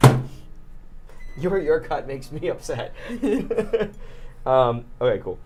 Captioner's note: chuckles